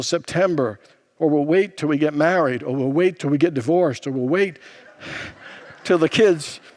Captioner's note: congregants laugh